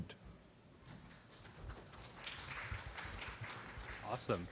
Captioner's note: applause